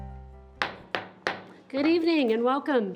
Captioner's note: gavel banging